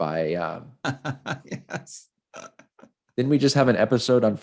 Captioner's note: laughing